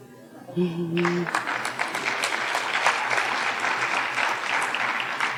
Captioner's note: audience applauding